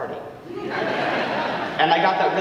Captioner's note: audience laughing